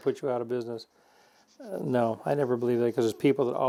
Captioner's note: sandpaper scraping